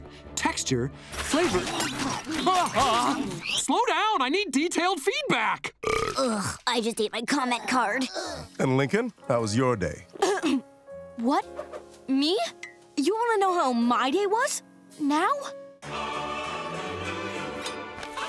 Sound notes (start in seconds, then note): 5.8 belching; 10.2 coughing